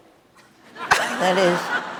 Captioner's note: audience laughing